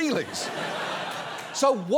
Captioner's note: studio audience laughs